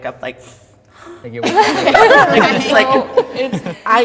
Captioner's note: everybody laughs